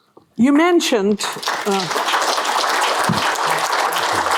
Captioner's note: applause